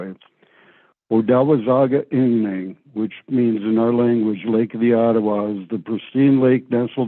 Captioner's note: Ojibwe spoken